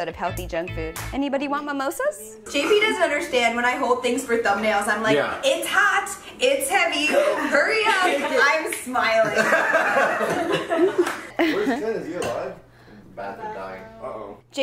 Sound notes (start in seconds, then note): 9.0 laughing